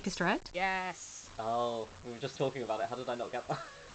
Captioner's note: laughing